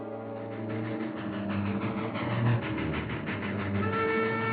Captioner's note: train chugging and chooing